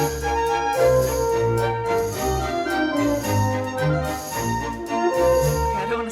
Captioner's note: whistles the Disney logo tune